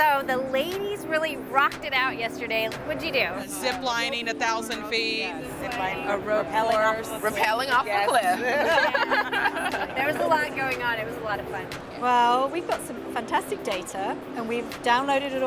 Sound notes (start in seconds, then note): 8.0 laughter